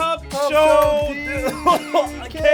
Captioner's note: coughs